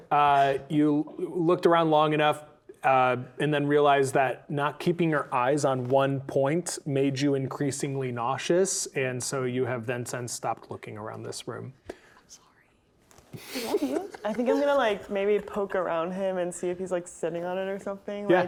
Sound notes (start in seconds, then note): 0.0 players laughing; 12.2 whispers